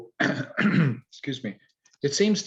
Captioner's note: coughs loudly